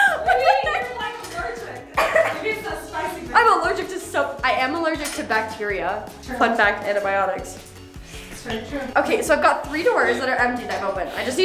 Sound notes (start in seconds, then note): 0.0 laughs; 1.9 coughs